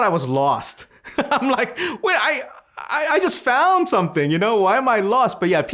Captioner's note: laughs